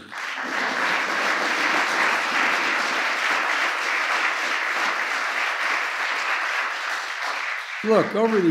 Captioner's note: applause